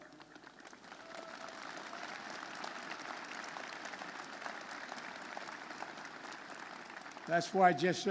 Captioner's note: applause